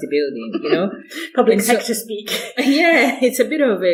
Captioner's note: chuckles